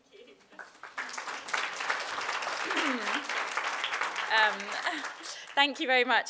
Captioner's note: applause